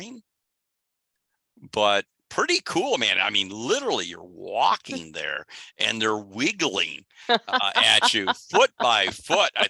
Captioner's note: laughs